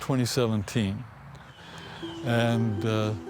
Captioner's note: birds chirping